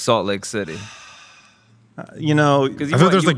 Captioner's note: sighing